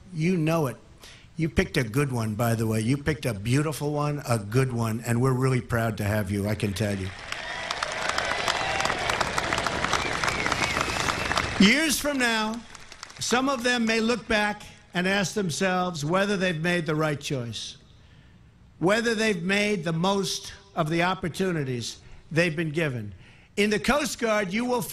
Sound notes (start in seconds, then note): 14.4 applause